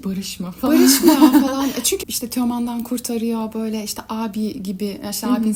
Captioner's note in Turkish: kahkaha